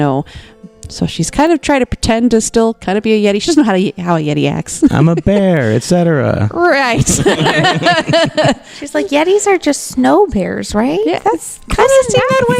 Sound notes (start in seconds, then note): 4.8 laughs; 6.9 laughter